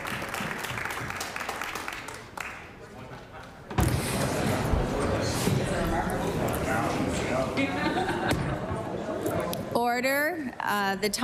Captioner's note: applause